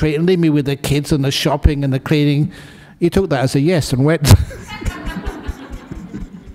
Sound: laughter

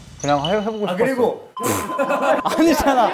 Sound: cracking up

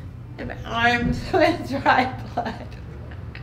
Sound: laughing

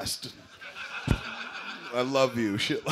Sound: laughter

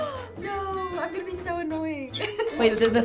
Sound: gasps; laughs

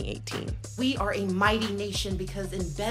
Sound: soundbite of archived recording

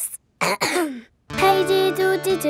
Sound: clears throat

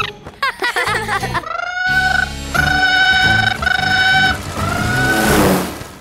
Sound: laughing; squawking

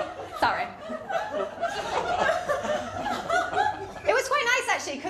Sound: laughter

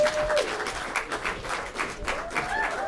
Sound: applause

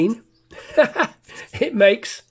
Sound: laughs

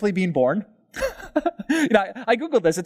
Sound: pastor: Laughter

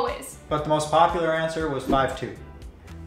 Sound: none

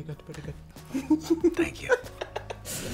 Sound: laughs

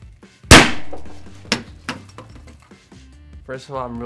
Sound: confetti cannon explodes

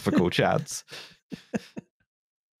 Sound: chuckles slightly

